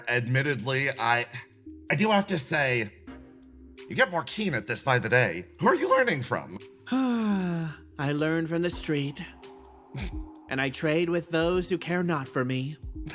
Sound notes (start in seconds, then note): 6.8 sighs